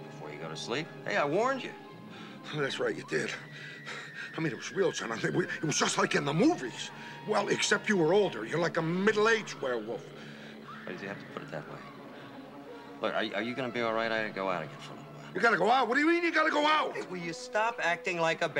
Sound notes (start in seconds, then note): 6.8 screaming